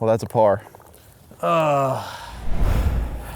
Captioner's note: groans